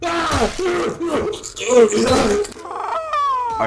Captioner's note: gurgling